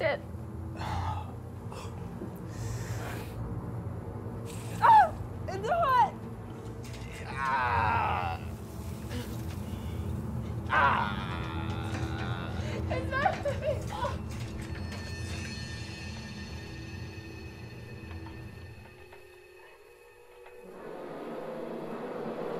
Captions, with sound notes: - He's dead. (metal sizzles) (Ryder cries out) - It's hot. (Lance groaning) (suspenseful music)